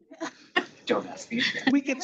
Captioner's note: attendees chattering and laughing; attendees laughing